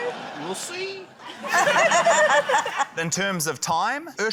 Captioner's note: laughter